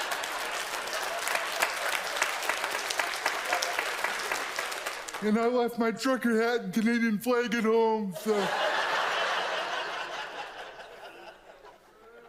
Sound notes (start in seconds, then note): 0.0 audience laughs loudly; 0.0 applause; 0.3 audience laughs loudly; 8.2 audience laughs